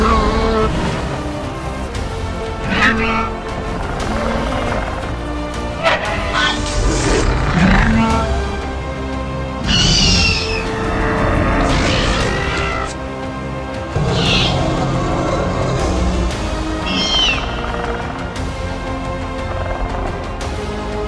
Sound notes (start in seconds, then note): 0.0 Ankylosaurus and Raptor Sounds; 0.3 ankylosaurus Tail Thumping Sounds; 5.6 Ankylosaurus and Raptor Sounds